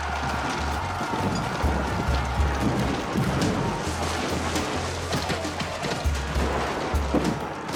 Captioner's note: explosions; gunfire